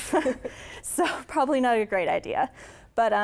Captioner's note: laughter